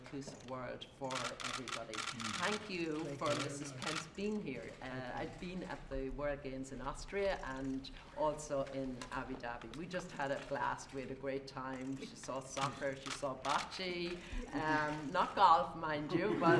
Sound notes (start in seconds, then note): 14.1 laughs; 14.4 laughter